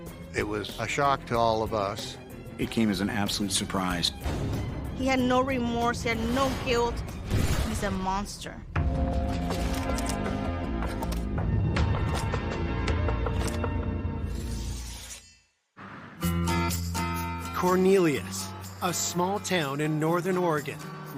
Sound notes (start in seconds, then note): 7.2 g firing